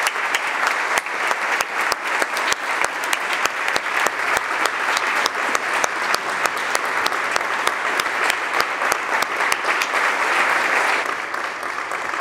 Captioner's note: applause